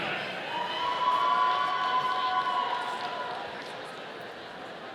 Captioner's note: audience cheering